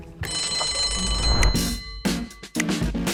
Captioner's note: bell rings; upbeat music